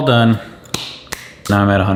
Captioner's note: clapping